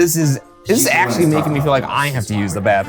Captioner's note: site rep speaking faintly